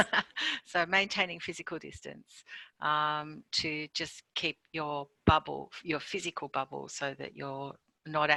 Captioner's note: laughs